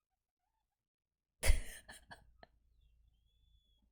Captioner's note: laughs